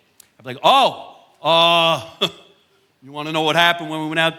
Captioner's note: chuckles